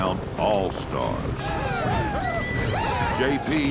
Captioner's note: whooping, cheering